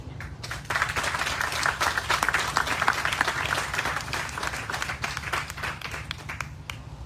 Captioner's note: applause